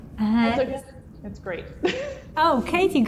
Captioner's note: laughs